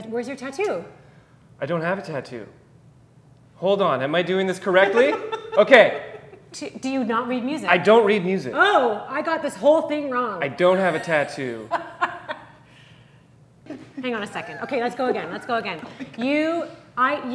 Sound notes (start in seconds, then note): 4.7 laughing; 11.7 laughs